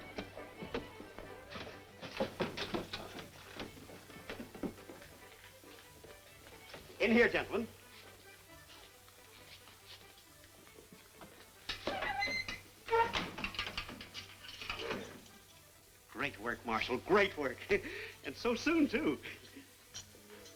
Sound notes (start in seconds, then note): 17.2 chuckles